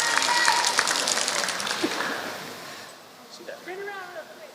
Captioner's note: applause